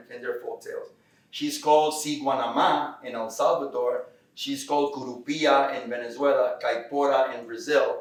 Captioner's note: Spanish